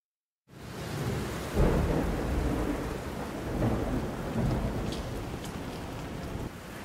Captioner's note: thunder rumbling